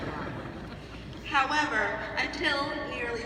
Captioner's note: laughs